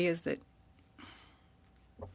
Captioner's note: speaking French